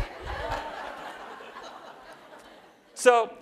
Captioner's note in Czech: Smích